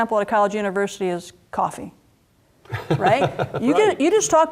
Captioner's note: laugh